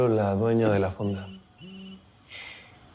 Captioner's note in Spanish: Suena un celular